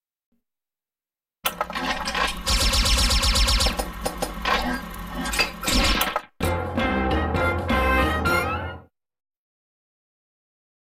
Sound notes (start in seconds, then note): 2.4 lasers lasering; 6.4 cartoon music plays